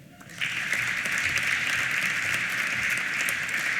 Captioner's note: applause